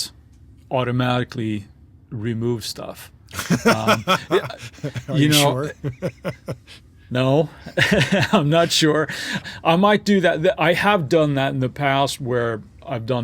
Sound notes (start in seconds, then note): 6.7 sniffing